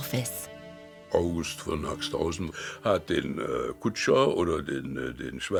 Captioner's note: speaking in foreign language